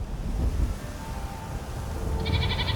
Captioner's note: none